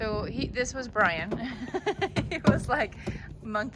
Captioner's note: laughs